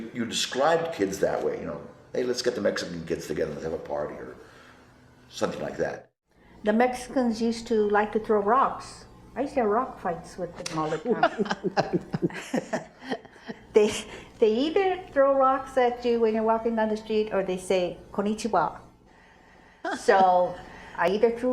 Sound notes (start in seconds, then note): 10.7 laughing